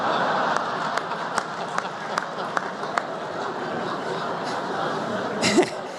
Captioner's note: laughter